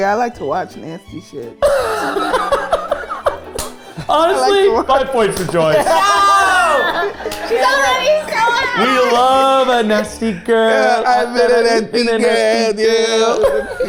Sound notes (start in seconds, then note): 2.0 group laughing; 5.8 screaming